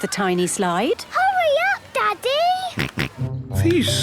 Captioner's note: George snorts